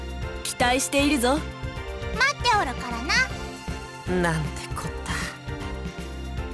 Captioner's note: none